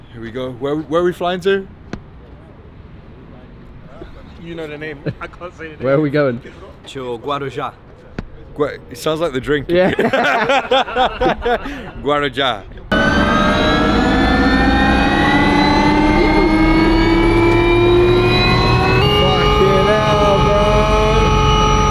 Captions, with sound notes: - Here we go. Where, where are we flying to? - You know the name. I can't say the name. - Where are we going? - To Guaruja. - It sounds like the drink. - Yeah. (everyone laughing) - Guaruja. (helicopter whirring) - Fuck yeah, bro. I love this shit